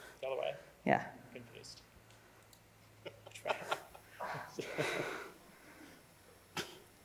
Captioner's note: laughs